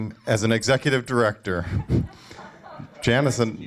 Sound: laughter

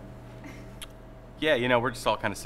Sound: laughing

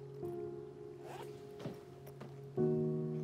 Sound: boot zipping

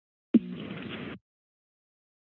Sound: static noise

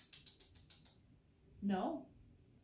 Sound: clicks tongue

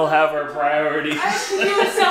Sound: laughter

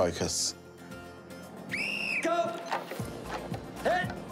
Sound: whistle blows

